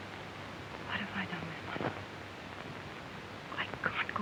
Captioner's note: whispering